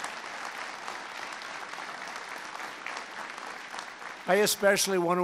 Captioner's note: applause